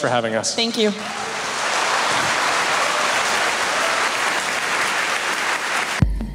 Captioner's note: applause; forest ambience with rhythmic beats